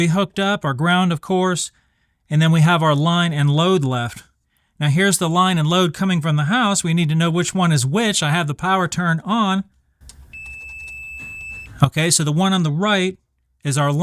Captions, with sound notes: hooked up, our ground, of course. And then we have our line and load left. Now, here's the line and load coming from the house. We need to know which one is which. I have the power turned on. [beeping] Okay, so the one on the right is our